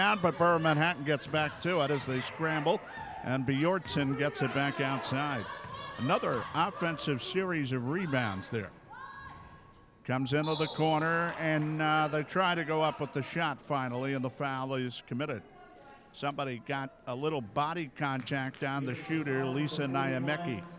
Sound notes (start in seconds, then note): 10.4 referee whistling